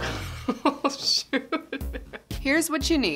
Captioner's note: laughing